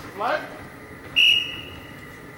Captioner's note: whistle